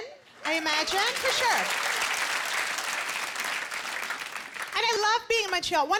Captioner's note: applause